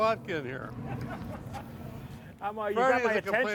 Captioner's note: laughing